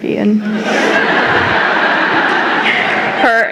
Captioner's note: laughter